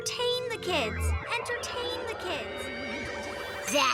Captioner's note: Lizbeth echoing